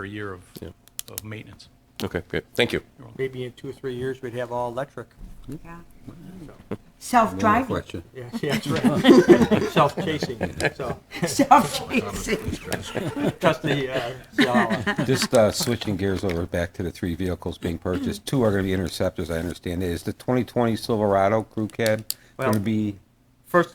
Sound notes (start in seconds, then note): 8.4 laughing; 11.8 laughs